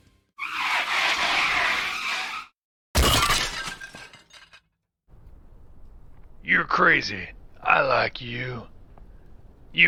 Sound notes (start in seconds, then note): 0.4 tires squealing; 3.0 crash